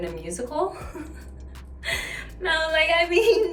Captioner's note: Vanessa laughing